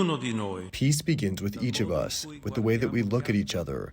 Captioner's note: through translator